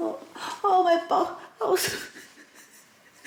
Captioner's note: laughing